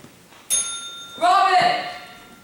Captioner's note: bell rings